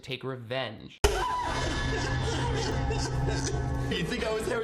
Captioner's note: Sarah screaming; boy laughing